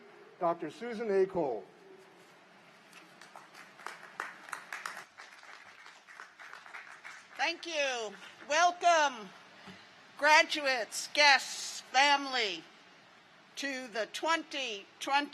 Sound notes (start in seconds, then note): 7.9 applause